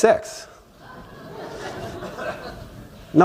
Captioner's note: laughter